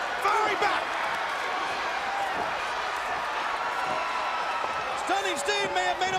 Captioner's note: crowd cheering